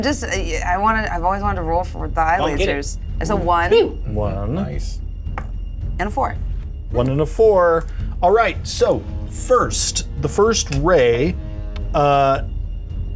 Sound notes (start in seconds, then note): 5.3 die thuds